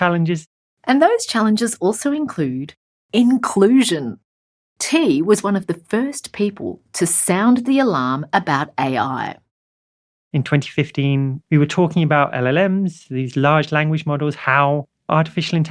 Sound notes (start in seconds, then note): 1.0 voiceover